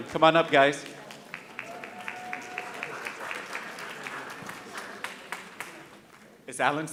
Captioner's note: audience cheering and applauding